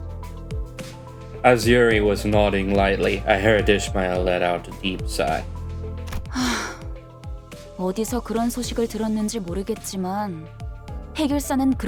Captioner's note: sigh